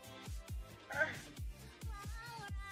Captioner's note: groan